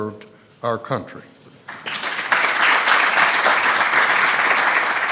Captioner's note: applause